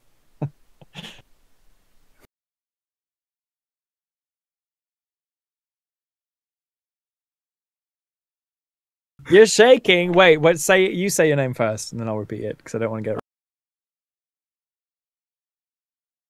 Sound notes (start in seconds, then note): 9.1 laughs